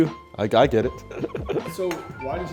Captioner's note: laughs